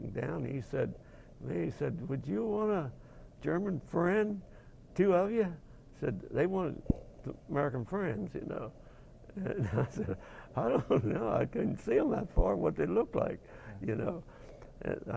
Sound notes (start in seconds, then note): 9.3 chuckling